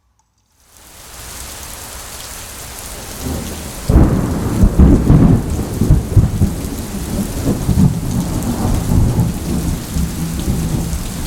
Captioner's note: rain and thunder noises